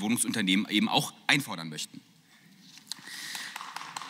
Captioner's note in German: Beifall